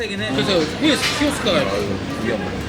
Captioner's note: crying